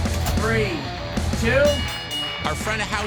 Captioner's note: bell dinging